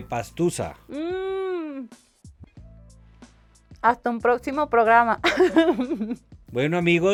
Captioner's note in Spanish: risas